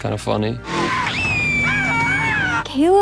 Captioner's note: engine rumbling; Caleb screaming